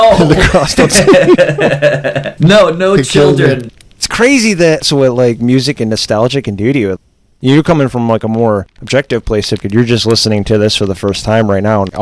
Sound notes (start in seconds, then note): 0.0 laughs; 2.8 laughter